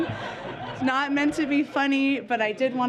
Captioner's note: laughter